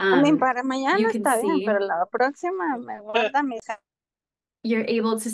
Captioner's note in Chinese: 用外语发言